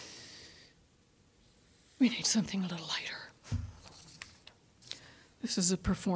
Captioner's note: inhaling